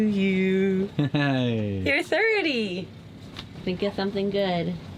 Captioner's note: laughs